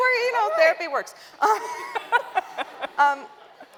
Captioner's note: laughter